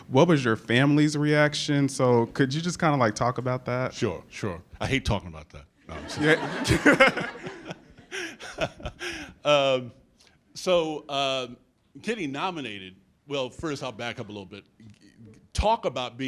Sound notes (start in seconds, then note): 5.9 laughs